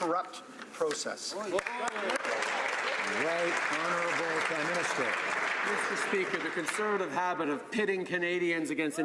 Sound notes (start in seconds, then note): 4.5 some Applause